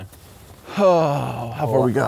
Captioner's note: gasps